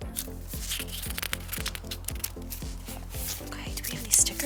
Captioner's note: packaging rustles